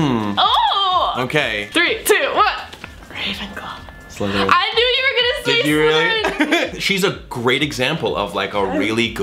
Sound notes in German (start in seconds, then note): 0.2 quietscht; 2.9 flüstert